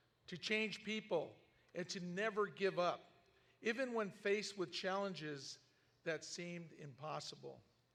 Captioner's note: none